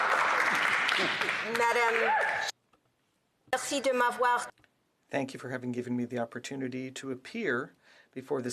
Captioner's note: some Applause